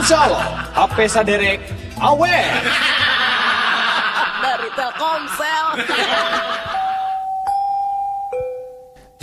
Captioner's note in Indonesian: tertawa; tertawa